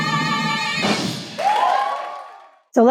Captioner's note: crowd cheers